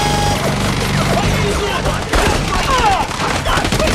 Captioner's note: guards yelling